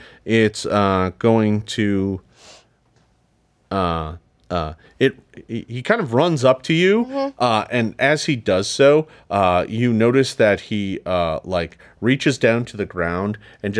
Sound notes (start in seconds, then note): none